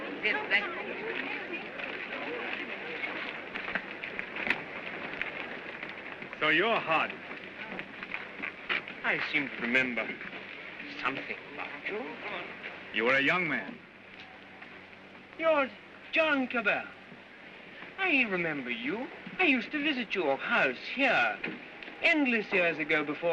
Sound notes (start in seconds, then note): 0.0 crowd chatters excitedly; 3.3 footsteps crunching